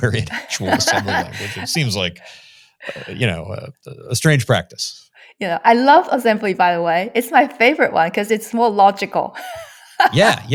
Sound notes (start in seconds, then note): 10.0 laughs